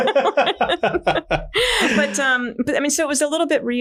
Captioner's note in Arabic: كلاهما يضحك